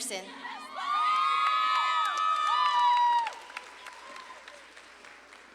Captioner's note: audience claps and cheers